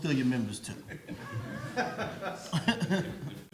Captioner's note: audience laughs